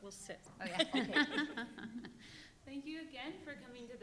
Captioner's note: panelist laughing